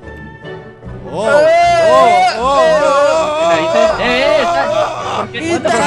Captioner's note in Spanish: Gritos